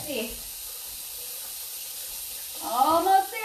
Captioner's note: water gushing